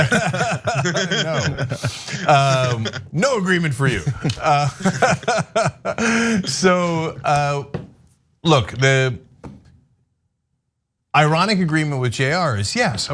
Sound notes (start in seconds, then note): 0.0 laugh